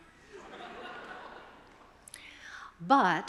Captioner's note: attendees laughing